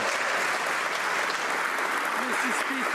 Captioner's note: some Applause